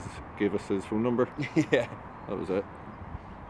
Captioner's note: laughs